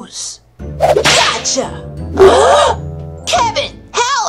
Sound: gasps

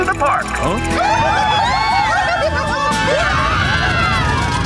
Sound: screaming

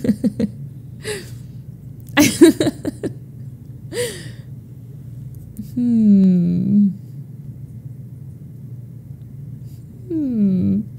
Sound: laughs

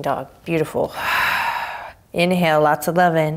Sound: exhaling strongly

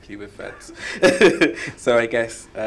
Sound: laughs

